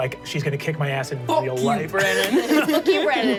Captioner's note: laughs